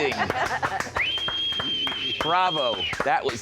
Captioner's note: whistling